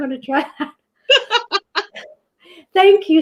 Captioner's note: both laugh